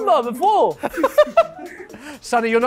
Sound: laughter

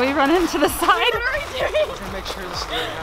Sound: laughs

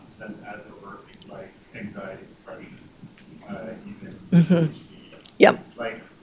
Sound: speaks faintly

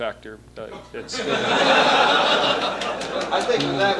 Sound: laughter

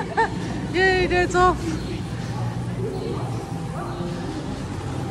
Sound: laughter

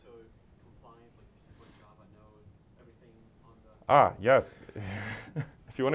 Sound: laugh

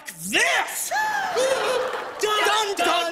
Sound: all gasp

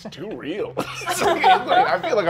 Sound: laughs; players laughing

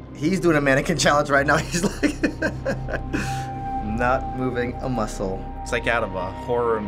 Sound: laughing

